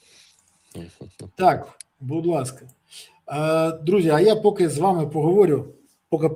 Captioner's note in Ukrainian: сопіння